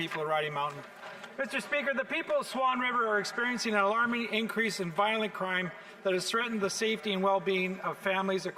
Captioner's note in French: voix de l'interprète